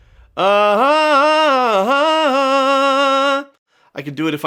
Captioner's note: vocalizes